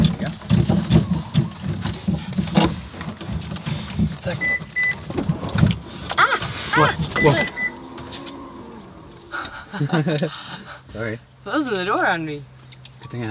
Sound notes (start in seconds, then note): 4.2 car beeping; 9.3 both laughing